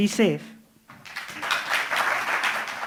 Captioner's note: applause